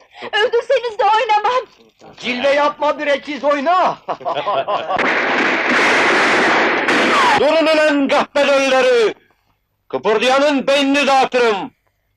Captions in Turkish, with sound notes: Öldürseniz de oynamam! [Silah sesleri] Durun ülen kahpe dölleri! Kıpırdayanın beynini dağıtırım!